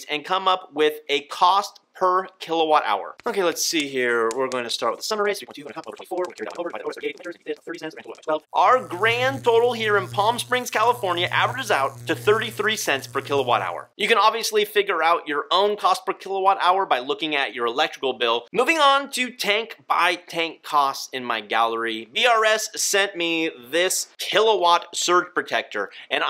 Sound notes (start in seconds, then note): 5.9 sped up speaking